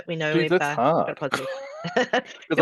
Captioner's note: laughs